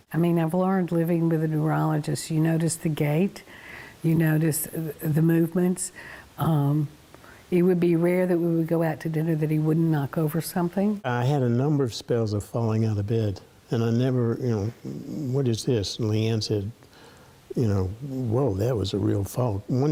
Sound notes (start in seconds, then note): none